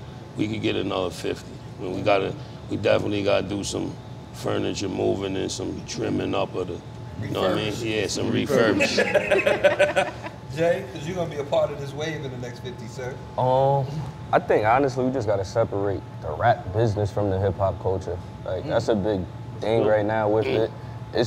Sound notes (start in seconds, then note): 8.7 laughing